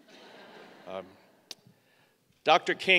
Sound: laughing

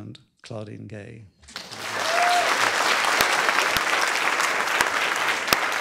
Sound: applause

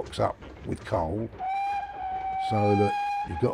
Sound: train whistling

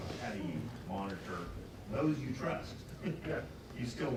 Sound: laughs

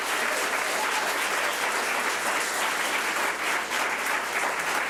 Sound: public applauding

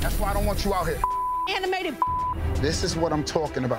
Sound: beep

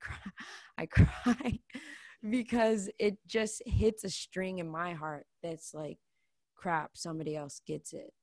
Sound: laughs

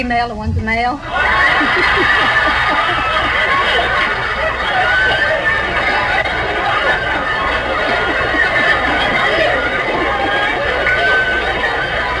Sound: audience laughs

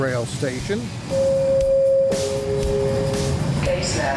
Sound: announcer machine beeping

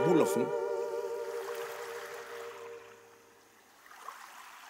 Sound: water splashing

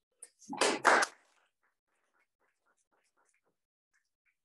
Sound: applause

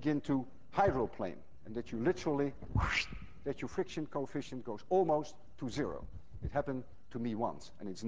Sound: makes whooshing sound

